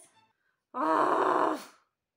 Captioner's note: mad noises